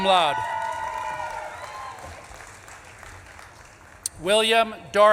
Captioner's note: audience claps and cheers